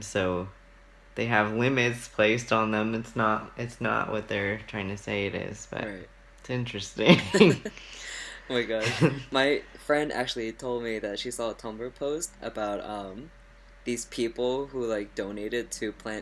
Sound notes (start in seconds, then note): 7.0 laughs; 7.0 laughts